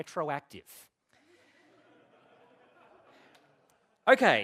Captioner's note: laughter